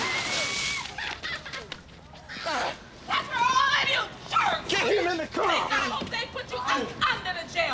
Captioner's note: laughs